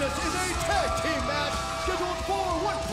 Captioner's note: bell ringing